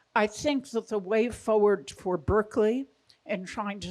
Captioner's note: none